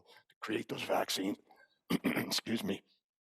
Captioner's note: throat clearing